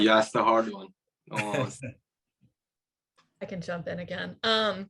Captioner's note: laughing